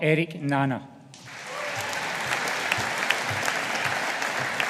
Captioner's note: audience applauding